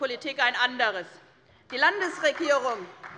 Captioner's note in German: Beifall